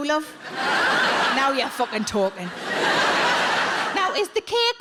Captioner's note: audience laughing